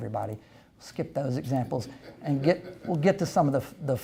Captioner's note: audience laughs